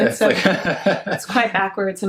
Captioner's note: laughs